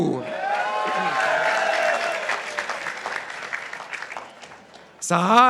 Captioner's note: participants applauding